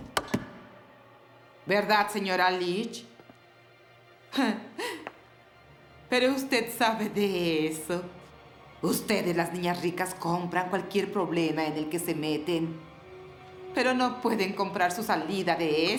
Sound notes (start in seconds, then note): 0.0 banging; 4.4 Lillian laughing